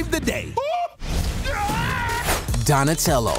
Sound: yelling

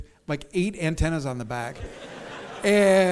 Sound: audience laughs

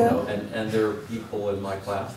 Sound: laugh

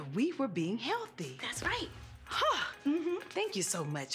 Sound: sighs

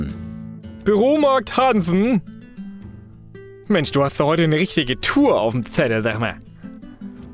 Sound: funny low german dialect

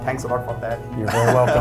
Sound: laughing

